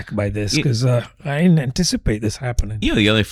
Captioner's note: uh